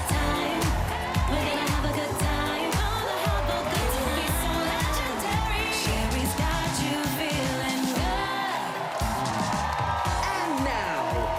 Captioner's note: cheers and applause